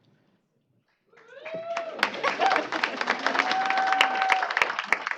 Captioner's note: applause, cheering